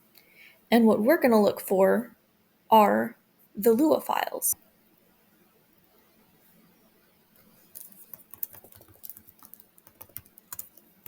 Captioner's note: typing